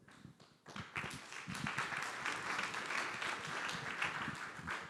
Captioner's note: audience applauds